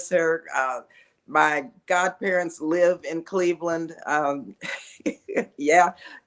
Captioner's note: laughs